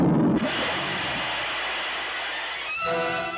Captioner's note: steam hisses; dramatic music